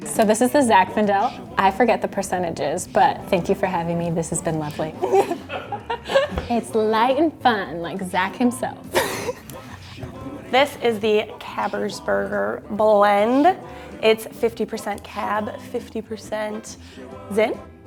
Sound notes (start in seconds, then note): 5.3 laughing; 8.9 laughing